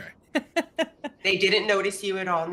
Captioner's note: laughs